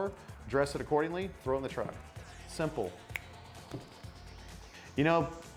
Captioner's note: snaps